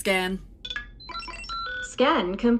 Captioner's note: the Computer chimes